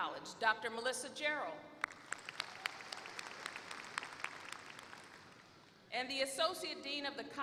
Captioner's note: applause